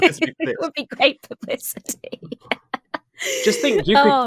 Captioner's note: laughs